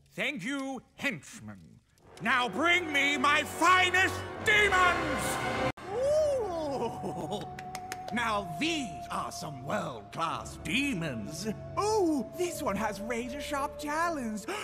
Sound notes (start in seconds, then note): 5.8 happy Devil noises; 14.4 gasps